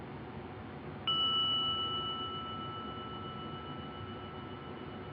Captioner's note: bell ringing